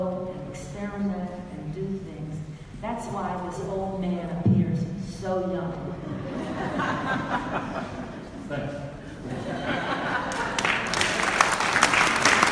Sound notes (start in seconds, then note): 6.0 audience laughs; 10.1 audience claps